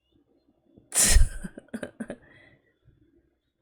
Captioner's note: laughs